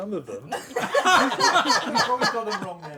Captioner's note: laughter